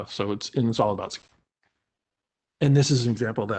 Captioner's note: break in audio